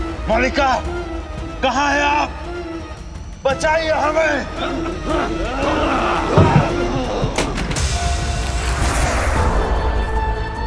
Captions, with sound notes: Queen, where are you! Save us! [grunting] [eerie music]